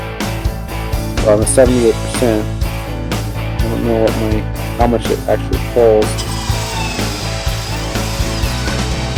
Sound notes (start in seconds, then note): 6.0 whirring